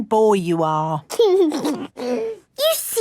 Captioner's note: giggles